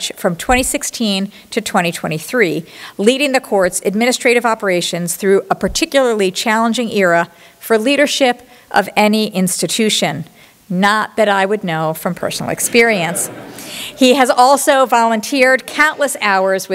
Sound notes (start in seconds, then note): 12.8 laughter